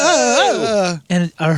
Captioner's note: laughing